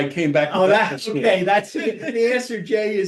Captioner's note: laughs